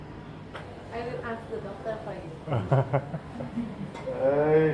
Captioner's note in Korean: 웃음